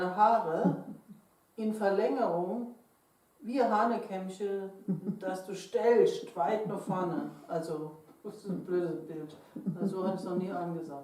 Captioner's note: foreign language